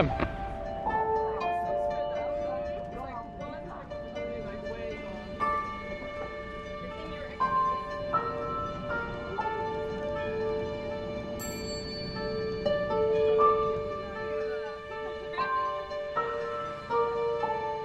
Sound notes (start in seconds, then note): 5.1 mysterious Piano Music; 5.1 soft background chatter